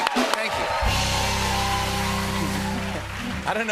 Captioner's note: cheers and applause